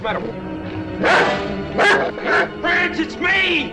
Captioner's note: dog barking